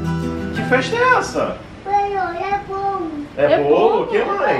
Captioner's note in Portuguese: balbuciando